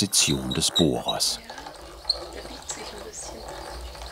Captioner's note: squeaking